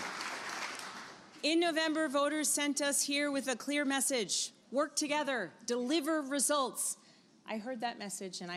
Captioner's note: applause